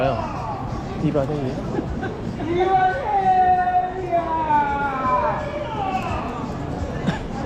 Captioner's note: two men continue to scream